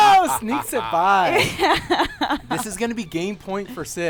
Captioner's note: laughter